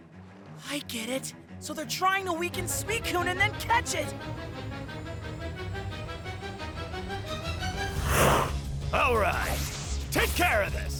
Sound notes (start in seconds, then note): 4.4 tense music; 8.0 Suicune snarls